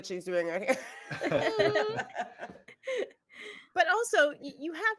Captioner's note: all laughing